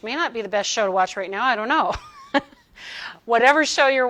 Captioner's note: chuckles